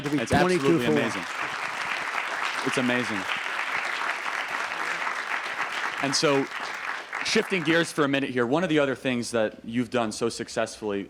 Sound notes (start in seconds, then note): 1.6 applause